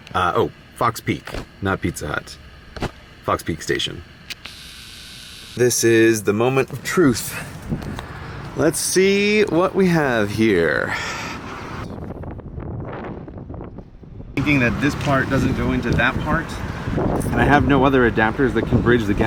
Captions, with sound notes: Uh, oh, Fox Peak! Not Pizza Hut. Fox Peak Station. This is the moment of truth. Leeeet's seeee what we have here.... *wind blowing* Seeing that this part doesn't go into that part....and I have no other adapters that can bridge the gap..